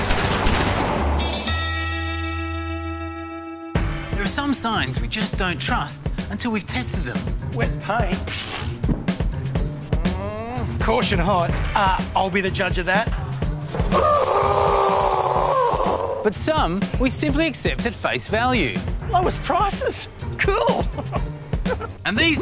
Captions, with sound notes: There are some signs we just don't trust until we've tested them. 'Wet paint'? Pfft. (Groans) 'Caution hot'? Uh, I'll be the judge of that. (Shrieks) (Sizzling) But some we simply accept at face value. 'Lowest prices.' Cool. (Chuckles)